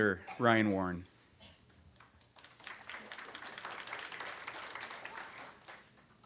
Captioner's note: audience applauds